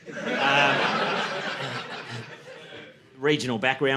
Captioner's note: audience laughing